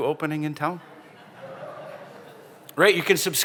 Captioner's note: laughter